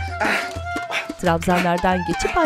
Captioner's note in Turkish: Nefes sesi